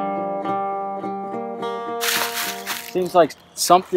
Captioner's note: leaves rustling